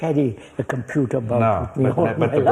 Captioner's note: laughs